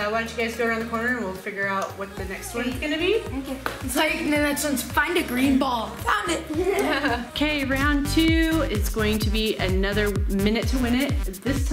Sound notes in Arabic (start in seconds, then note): 6.0 يضحك